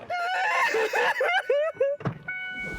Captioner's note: sobbing